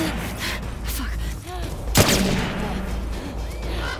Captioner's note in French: bang